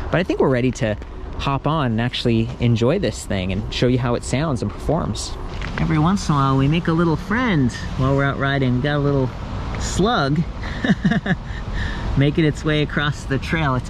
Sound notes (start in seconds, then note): 10.6 laughing